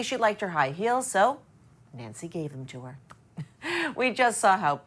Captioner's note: chuckles